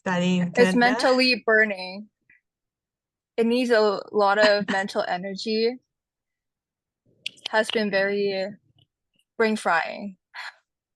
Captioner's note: laughs